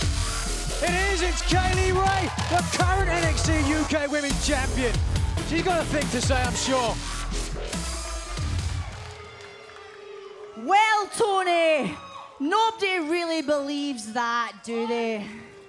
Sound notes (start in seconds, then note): 10.0 crowd boos; 15.4 crowd boos